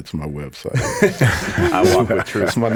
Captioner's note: all laughing